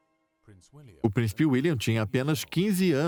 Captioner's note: voiceover